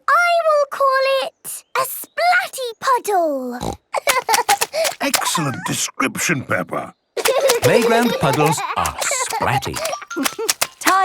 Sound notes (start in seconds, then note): 3.9 snorting; 3.9 giggling; 7.2 giggling